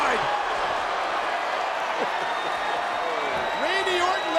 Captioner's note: audience cheers